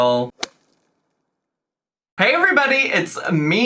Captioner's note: golf shot thumps